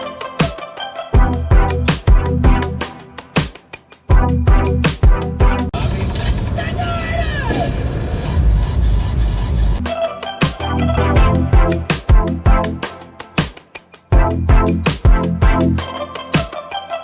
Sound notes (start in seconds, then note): 5.7 car radio plays strange DJ sound effects